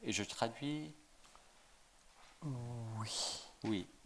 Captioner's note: speaking in French